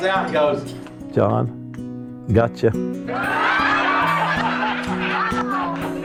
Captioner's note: guests laughing